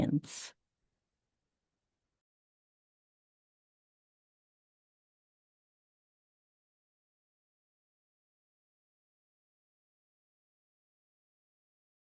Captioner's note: long silence